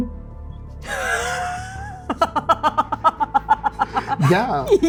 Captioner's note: laughing